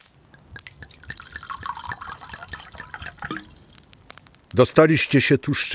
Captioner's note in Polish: Dźwięk lanego wina